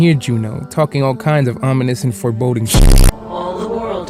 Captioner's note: glitch